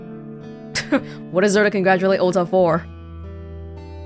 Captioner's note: scoffs